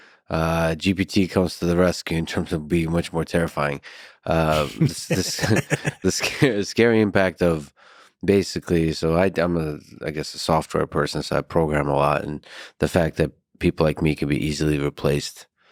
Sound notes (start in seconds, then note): 4.5 Lex laughs; 4.5 laughs